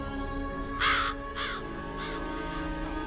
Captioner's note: Alma is whispering; scared ravens